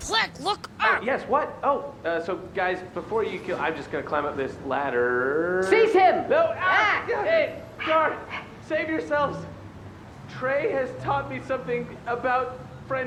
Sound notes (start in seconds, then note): 1.2 through gritted teeth